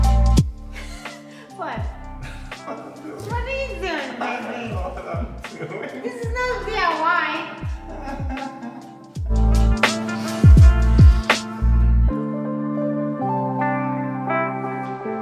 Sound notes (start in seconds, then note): 4.8 laughing; 8.1 laughing